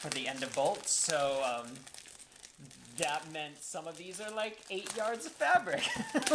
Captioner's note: laughter